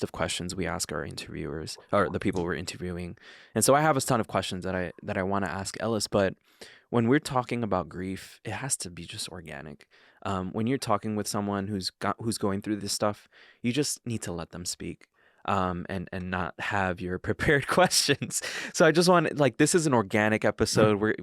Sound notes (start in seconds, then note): 18.2 chuckling